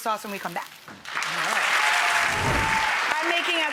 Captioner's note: audience applauds